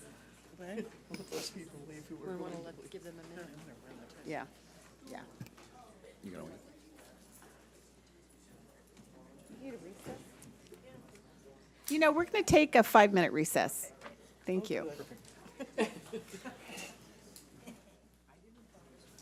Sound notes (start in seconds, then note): 5.7 people chattering; 15.4 people chattering